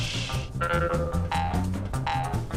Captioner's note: boing